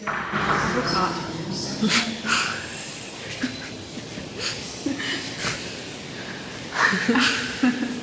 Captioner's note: laughs